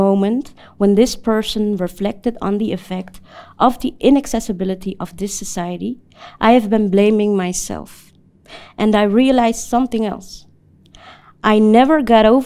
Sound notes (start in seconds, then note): none